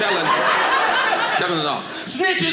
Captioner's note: audience laughing